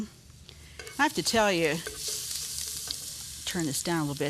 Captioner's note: pan sizzling